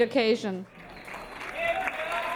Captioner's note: audience applauding